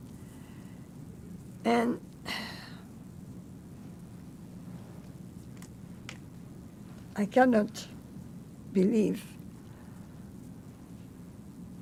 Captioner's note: sighing